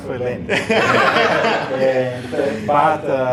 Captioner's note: laughter